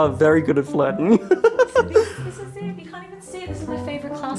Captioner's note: laughing